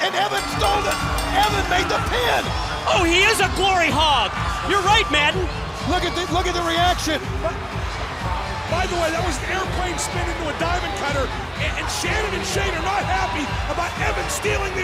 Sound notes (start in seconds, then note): 4.6 bell ringing